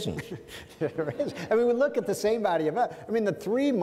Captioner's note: laughs